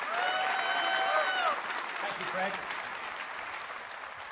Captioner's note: applause